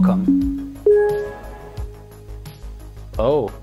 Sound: computer dinging

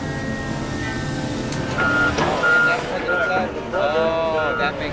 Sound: loader beeping

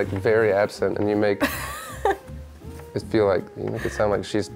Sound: laughs

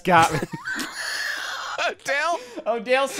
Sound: laughing

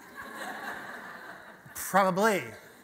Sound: audience laughter

